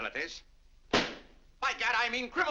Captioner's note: slams cigar box